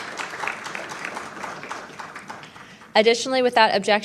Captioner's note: crowd applauds